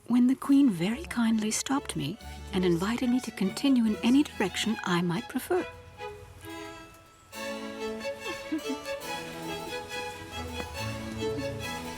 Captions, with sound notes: when the Queen very kindly stopped me, and invited me to continue in any direction I might prefer. (bright music) (women giggling)